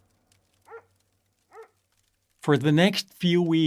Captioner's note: dog barking; fire crackling